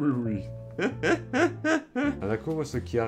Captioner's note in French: Rires